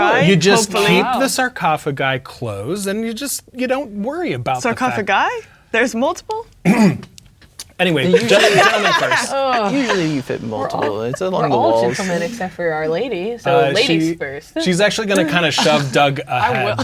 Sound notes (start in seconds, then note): 6.6 clears throat; 8.0 players laughing